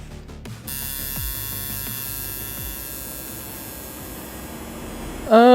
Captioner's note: tattoo needle buzzing